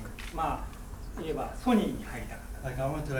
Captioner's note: speaking in foreign language